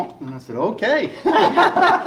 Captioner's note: laughing